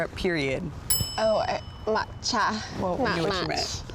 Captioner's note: bell tings